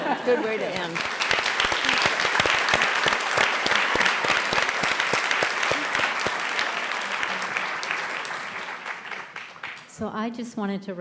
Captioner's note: applause